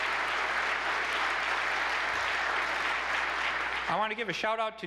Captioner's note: applause